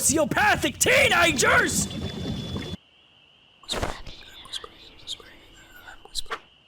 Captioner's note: whispering